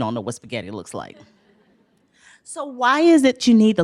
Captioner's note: laughter